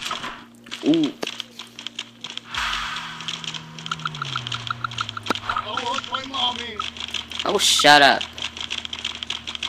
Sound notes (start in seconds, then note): 5.3 crying